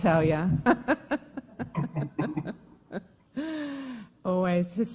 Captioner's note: laughs